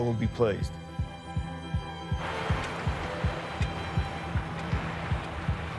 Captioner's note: music builds; wind whipping